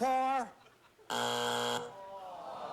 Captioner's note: buzzer